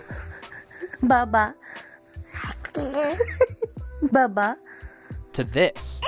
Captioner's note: indicipherable baby sounds, parents laughing in background